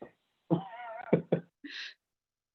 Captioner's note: laughs